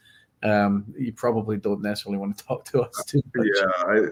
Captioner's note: laughs